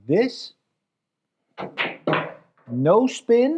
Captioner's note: balls clacking